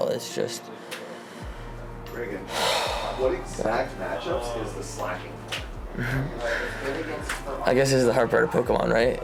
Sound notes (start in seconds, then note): 2.4 sighs; 4.6 background chatter